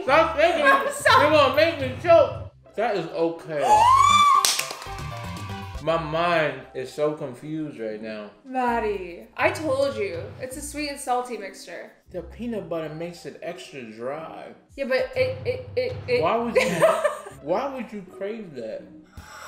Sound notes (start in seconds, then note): 3.6 shrieks and claps; 4.4 celebratory music; 15.8 stammers; 16.6 laughs; 18.6 whimsical music